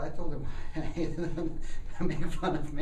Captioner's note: laughter